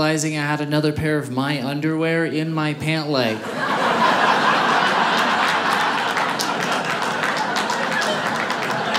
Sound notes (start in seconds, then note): 3.3 audience laughing; 4.1 audience applauding